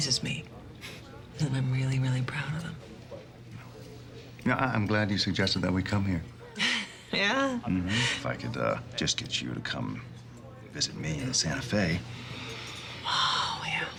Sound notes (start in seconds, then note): 6.5 laughs; 11.8 sighs